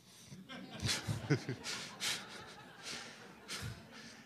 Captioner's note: laughter